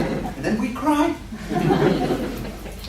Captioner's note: laughter